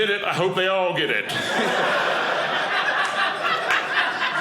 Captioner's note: audience laughing